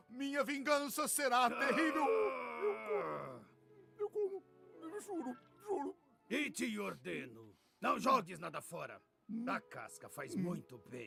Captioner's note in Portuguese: gemido; grito